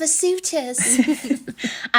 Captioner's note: laughing